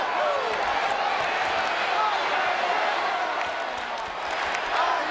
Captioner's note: crowd chants